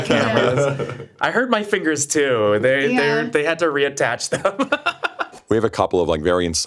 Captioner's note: laughs